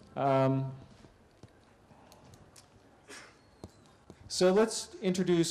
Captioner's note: pause